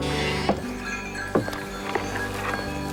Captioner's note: jingling of doorbells